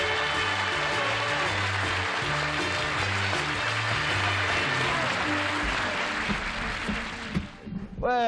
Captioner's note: applause